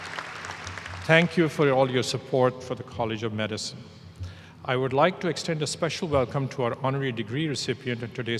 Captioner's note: applause